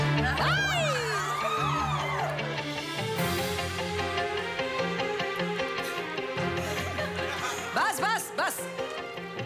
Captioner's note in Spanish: Gritos y exclamaciones